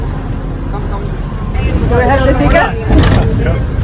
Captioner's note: laughing